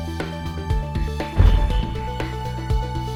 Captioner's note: dramatic instrumental music; loud whooshing